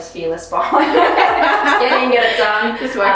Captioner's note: both laughs